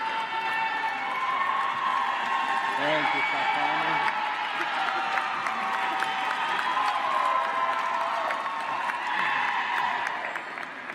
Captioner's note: applause